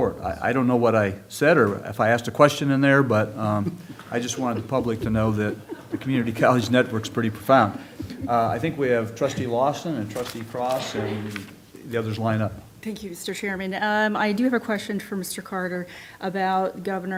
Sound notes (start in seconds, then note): 7.8 laughter